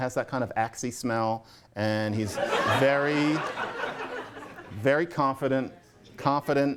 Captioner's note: laughter